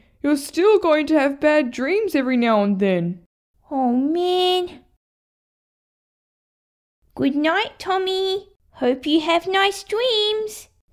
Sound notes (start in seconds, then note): none